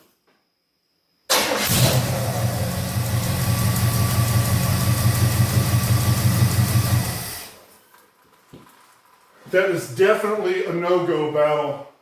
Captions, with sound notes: [engine starts & idles] [engine shuts off] That is definitely a NO-GO Battle!